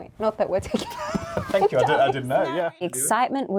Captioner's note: both laughing